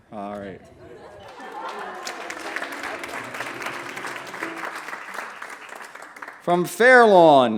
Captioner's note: applause